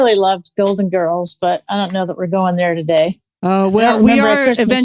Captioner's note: laughs